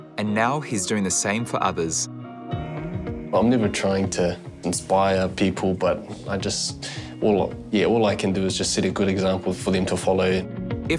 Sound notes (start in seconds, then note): none